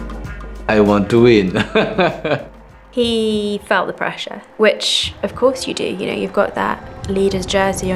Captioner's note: laughs